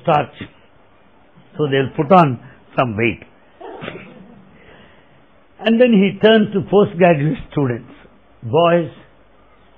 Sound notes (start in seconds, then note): 3.7 laughter